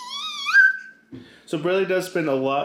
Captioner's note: baby mumbling